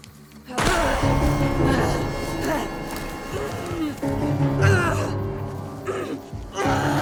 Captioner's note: dramatic music; Dorothy grunting